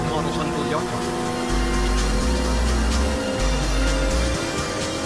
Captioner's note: cars revving